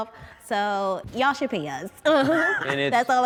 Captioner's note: laughs